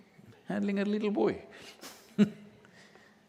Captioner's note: laughs